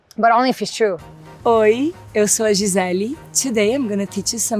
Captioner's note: Gisele speaks Portuguese